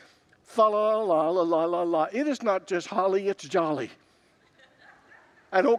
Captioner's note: congregants laugh